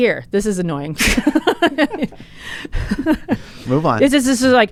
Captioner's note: both laughs